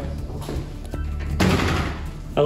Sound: door slams

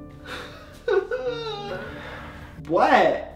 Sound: sobbing

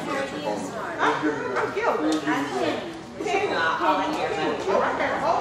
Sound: group chattering

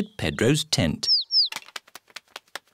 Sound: tweeting

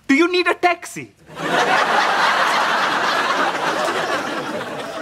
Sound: audience laughs

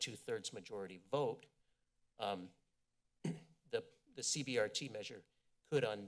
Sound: clears throat

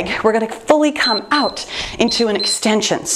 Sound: timer beeps

